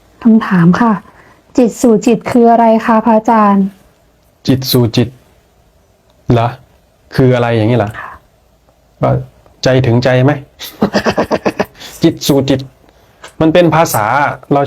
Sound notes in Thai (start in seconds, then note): 10.6 เสียงหัวเราะ